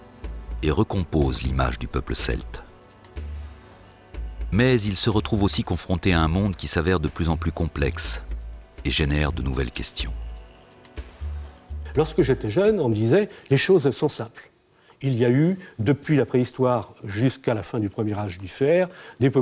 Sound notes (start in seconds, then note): 11.7 French spoken audio